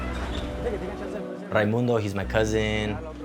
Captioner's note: speaking spanish